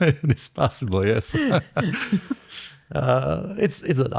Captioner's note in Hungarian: nevetés